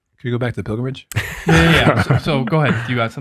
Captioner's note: group laughs